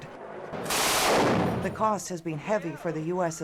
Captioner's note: gunfire